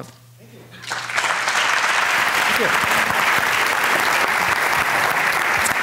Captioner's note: audience applauding